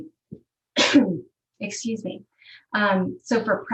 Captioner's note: coughs